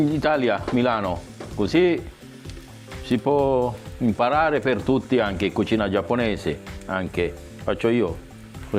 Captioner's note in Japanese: イタリア語